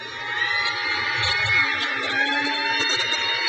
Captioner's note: crowd cheers